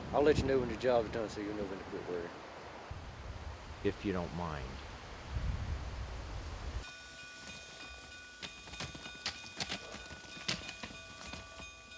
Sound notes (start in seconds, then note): 6.8 bell clanging